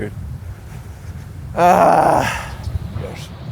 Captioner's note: groans